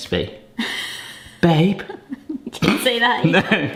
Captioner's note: snorts